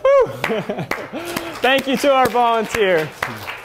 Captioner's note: applause